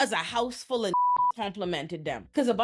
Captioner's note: beep